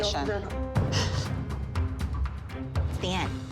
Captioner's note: crying